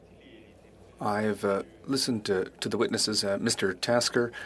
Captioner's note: speaking French